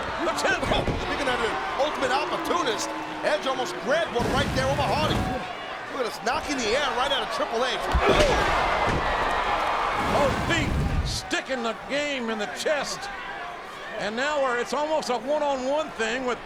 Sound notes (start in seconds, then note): 7.8 bodies thud; 8.4 audience cheering